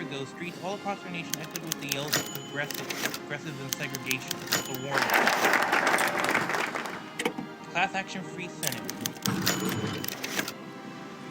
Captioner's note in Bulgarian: Аплодисменти